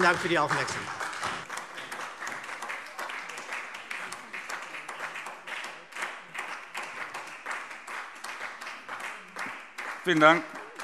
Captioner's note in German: Beifall SPD